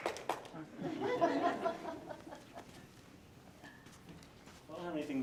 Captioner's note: audience laughing